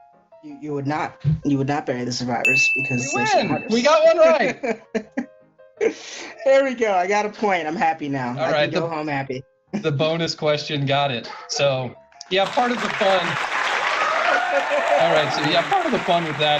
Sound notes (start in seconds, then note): 12.3 sound Effect: Audience Cheers